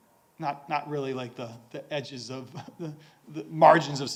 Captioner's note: chuckles